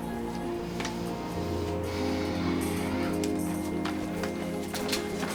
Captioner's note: Ashley sighs